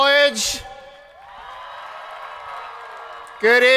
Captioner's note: crowd applauding